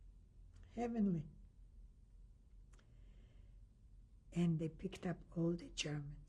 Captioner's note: pauses for 3 seconds